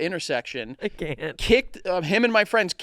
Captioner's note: giggles